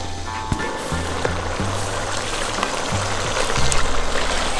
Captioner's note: meat sizzling